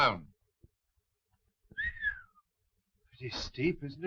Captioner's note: whistling